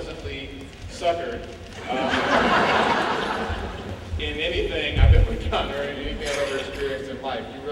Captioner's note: laughing